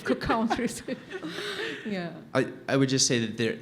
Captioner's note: laughs